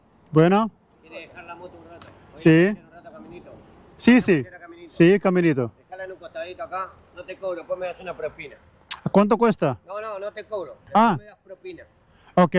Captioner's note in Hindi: स्पेनिश में बोलते हुए